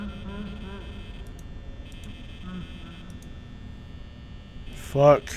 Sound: Creepy Fazbear Laugh in the background

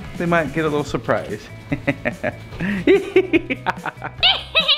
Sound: chuckles; cackling

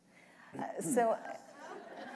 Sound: laughter

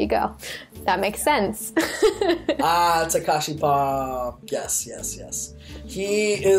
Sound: laughs

